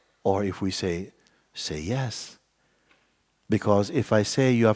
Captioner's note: imitates insincere voice